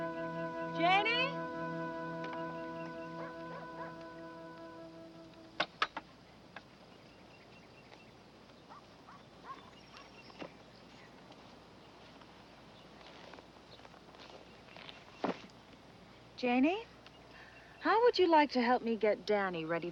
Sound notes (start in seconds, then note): 3.4 dog barking